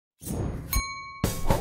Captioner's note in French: whoosh; ding